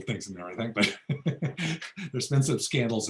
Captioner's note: laughs